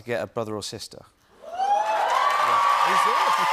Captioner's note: cheers and applause